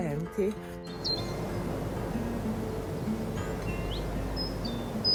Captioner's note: birds chirping